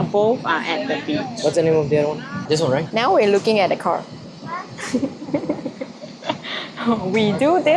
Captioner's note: giggles